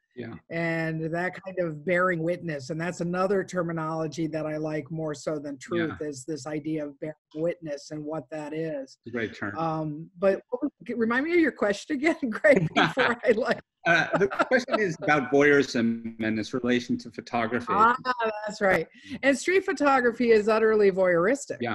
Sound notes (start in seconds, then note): 13.8 laughs